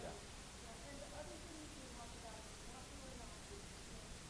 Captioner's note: voiceover